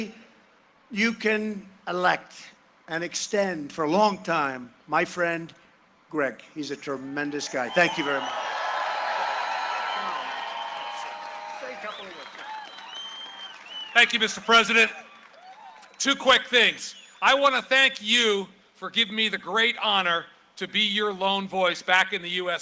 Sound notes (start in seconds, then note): 16.3 cheering and applause